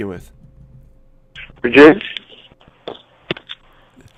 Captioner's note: static